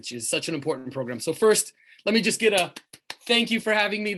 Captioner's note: claps